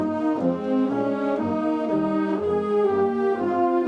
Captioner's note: none